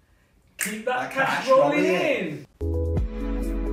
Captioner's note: fingers clicking; chilled music